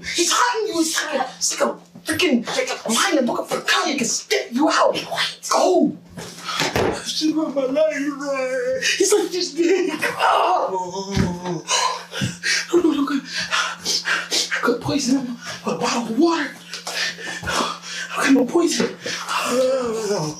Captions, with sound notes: He's hunting you. He's like a frickin... lion looking for its cub. He can sniff you out. Be quiet! Go! (Door slams) She ruined my life. He's like THIS big. Agh. (Indistinct chatter) I could poison him with a bottle of water. I don't got no poison. Agh.